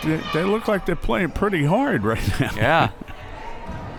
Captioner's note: laughs